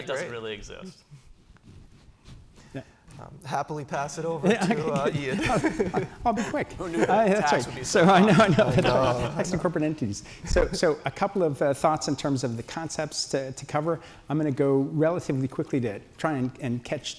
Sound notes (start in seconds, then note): 4.4 laughter; 4.4 laughs; 7.5 laughing